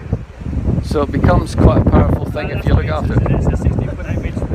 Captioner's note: very bad wind noise, sorry